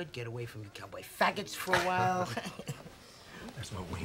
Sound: laughing

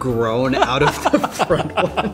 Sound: both boys laugh

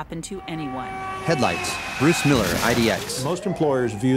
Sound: tires skidding, car crashing, sirens

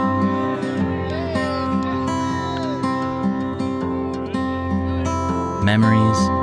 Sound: friends cheer

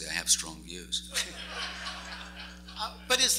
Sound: laughs

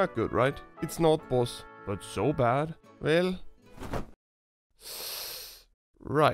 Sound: sibilant suck

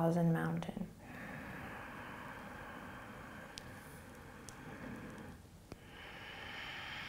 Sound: breathing

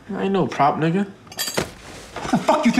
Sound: cutlery rattling

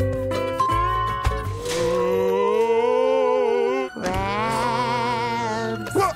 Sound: moaning

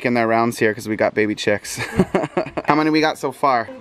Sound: laughs

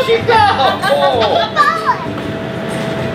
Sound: laughs

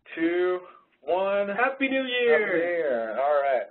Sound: voiceover

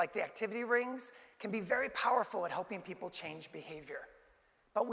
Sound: none

